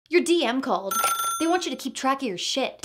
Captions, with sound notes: Your DM called. [phone ringing] They want you to keep track of your shit!